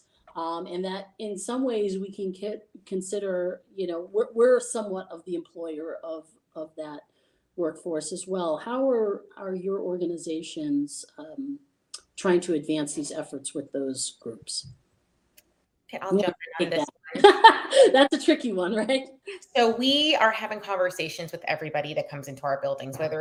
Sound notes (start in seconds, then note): 16.2 lady laughing